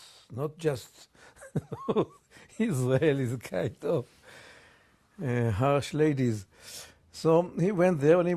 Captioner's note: laughs